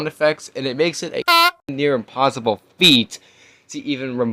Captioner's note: PooYoos Sound